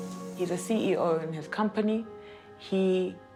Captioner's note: machine beeps